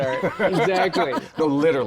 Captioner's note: laughter